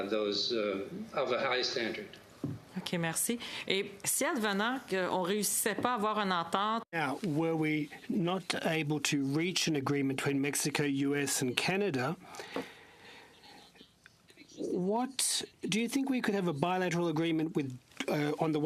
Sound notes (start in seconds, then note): 9.0 speaking french